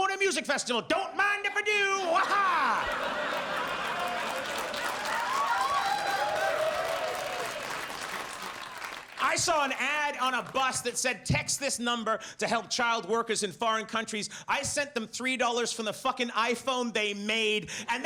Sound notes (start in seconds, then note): 2.0 audience laughs and applauds